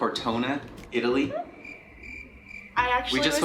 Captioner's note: cricket sound